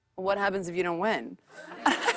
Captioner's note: laughter